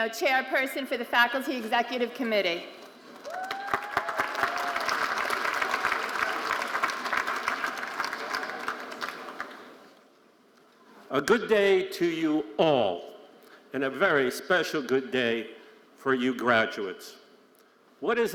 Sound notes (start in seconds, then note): 3.1 audience applauding